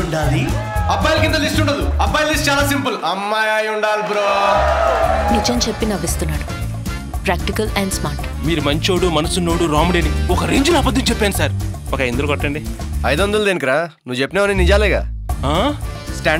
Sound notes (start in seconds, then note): 3.4 crowd applauding